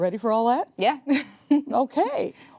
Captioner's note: laughs